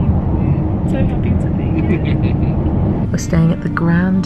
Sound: chuckles

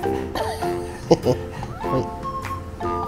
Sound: laughs

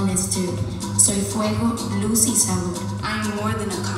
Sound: speaking in foreign language

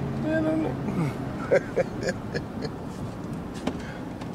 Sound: laughing

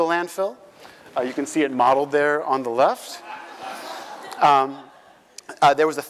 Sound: laugh

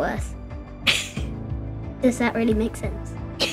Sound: girl laughs

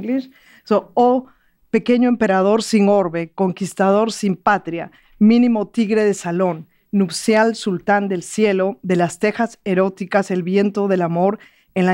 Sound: speaking in Spanish

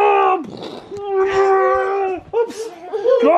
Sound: grunting

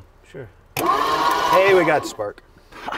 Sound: engine starts

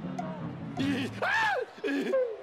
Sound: screams

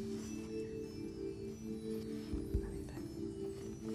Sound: whispering

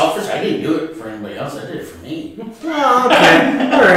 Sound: laughter

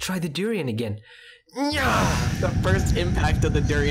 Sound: nyahh!

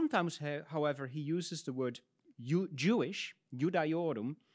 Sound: speaks in Latin

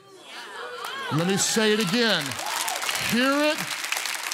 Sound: congregation cheers

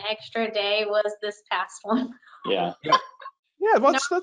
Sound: laughs

